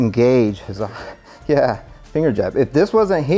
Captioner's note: laughing